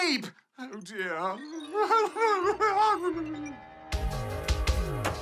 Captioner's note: whimpers